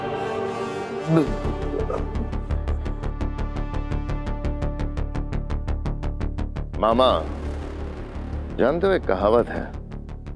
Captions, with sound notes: [stutters] [tense music] Uncle, there is a saying.